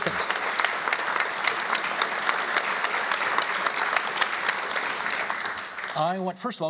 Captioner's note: applauding